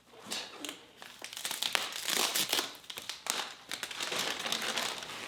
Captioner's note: packaging squeaking